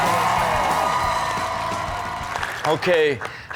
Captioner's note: crowd applauds and cheers